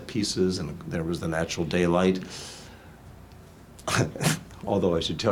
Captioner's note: laughs